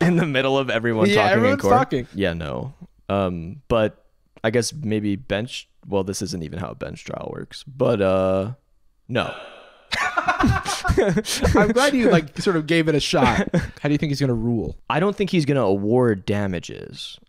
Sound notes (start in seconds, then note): 9.9 chuckles; 9.9 laughs